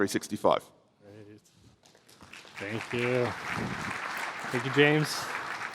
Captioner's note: applause